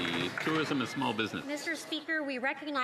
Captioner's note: some Applause